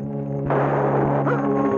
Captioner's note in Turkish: Tüfek sesi